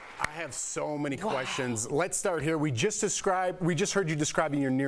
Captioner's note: applause